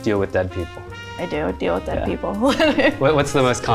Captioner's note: laughs